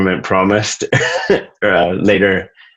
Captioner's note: laughs